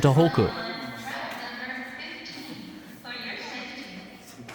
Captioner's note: platform announcement